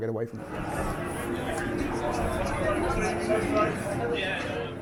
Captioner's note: fans chattering